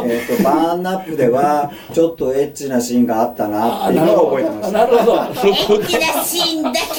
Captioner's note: laughs